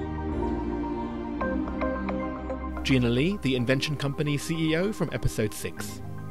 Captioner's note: voiceover